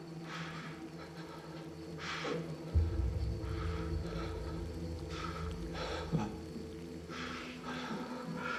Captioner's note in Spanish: Respiración agitada